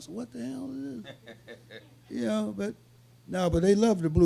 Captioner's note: laughing